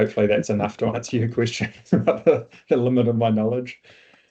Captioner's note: chuckles